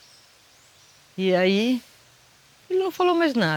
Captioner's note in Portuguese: none